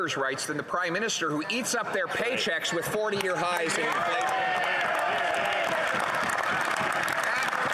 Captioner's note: some Applause